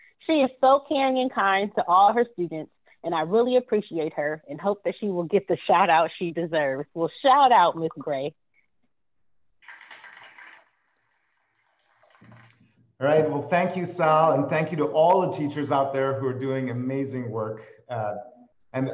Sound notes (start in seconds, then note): 9.6 applause